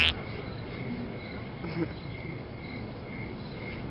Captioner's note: chuckles